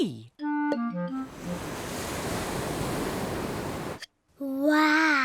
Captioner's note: waves crash and swoosh